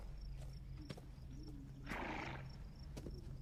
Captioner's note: horse neighs